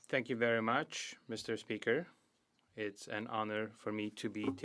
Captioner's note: speaking French